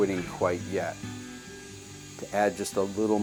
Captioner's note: tool whirring